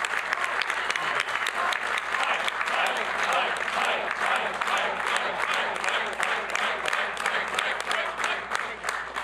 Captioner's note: applause; chanting "mike"